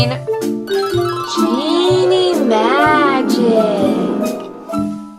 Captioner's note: dreamy sounds